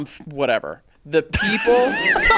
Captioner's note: laughing